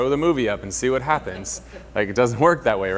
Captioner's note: light laughing